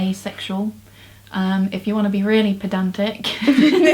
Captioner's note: both laugh